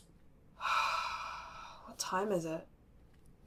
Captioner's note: deep breath